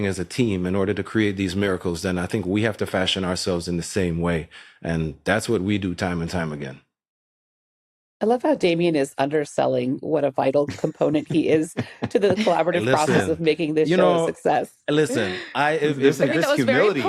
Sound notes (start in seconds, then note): 10.7 laughs